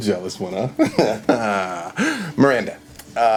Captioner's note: laughing